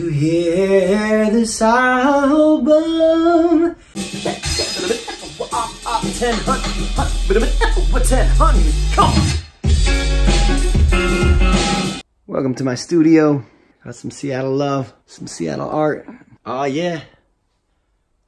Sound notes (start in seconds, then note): 3.9 beatBoxing